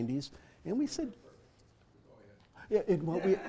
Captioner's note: laugh